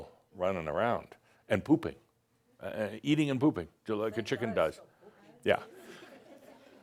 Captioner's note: a few giggles